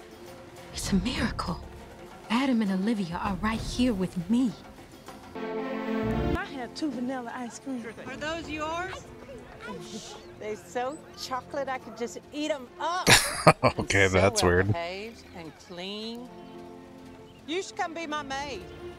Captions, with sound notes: [Chuckling] OK. That's weird.